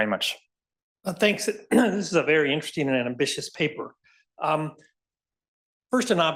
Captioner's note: cough